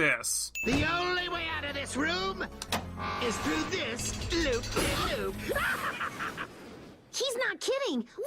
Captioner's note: laughs maniacally